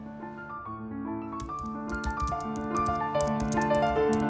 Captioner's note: sound of typing on a typewriter